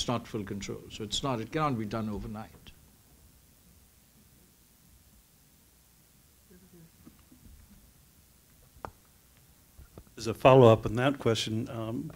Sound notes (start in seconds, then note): 7.1 murmur